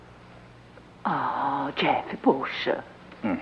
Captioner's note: sighs